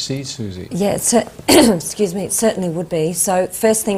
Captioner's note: clears throat